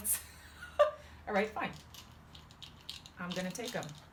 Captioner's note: laughs; noise of tablets coming out of the bottle